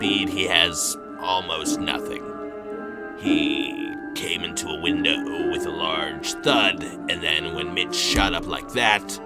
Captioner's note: snaps